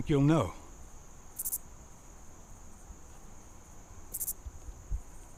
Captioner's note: insects chirping